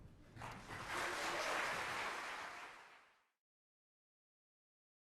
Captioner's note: applause